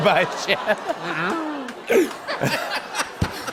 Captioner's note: laughter